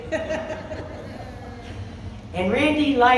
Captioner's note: laughs